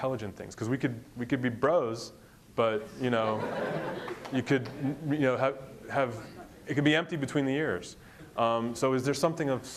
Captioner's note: crowd laughs